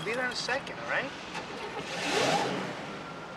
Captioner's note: car engine starts